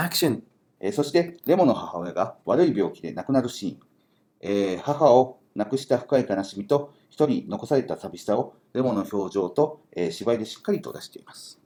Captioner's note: speaking Japanese